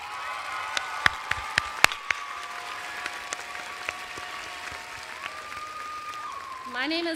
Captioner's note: applause and cheers